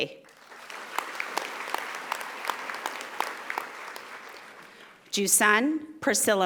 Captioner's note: audience applauding